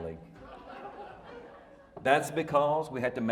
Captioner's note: audience laughing